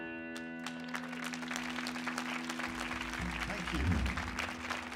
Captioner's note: audience clapping